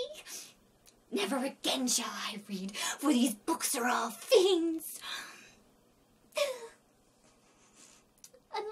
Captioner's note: heartbroken sob; sniff